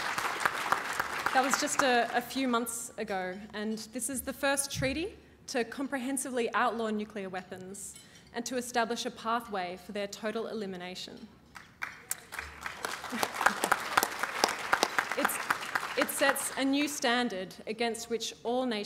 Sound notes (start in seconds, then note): 11.5 applause